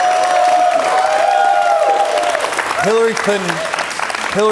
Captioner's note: cheers and applause